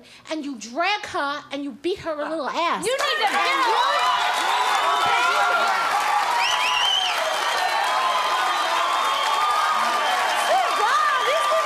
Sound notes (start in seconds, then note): 6.7 cheering